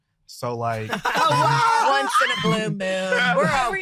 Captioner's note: group laughing